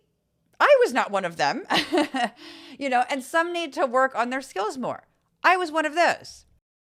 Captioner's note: laugh